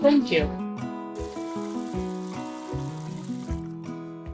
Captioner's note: water running